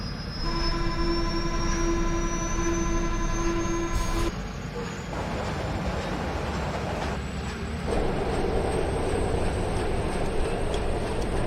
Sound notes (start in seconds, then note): 5.1 train honks